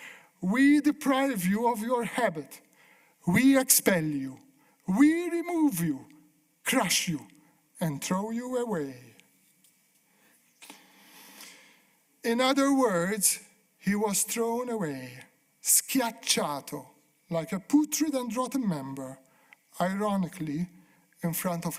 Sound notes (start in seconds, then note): 15.5 speaking italian